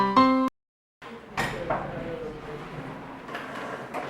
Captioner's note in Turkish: Öğrencilerin Çıkardığı Masa Vs. Sesleri